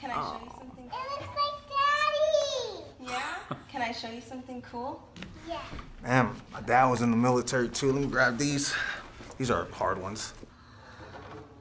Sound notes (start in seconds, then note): 3.8 laughs